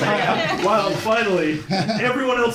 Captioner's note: laughter